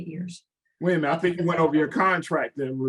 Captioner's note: laughs